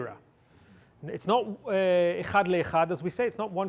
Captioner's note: hebrew